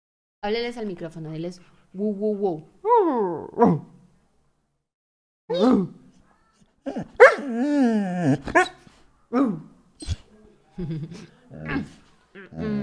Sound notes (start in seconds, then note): 3.6 Vita barks; 6.8 Arthas barks and whines